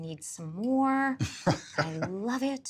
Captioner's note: chuckling